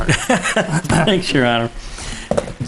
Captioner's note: laughing